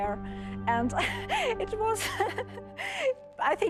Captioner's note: chuckling